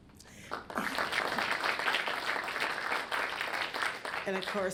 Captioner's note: audience applauds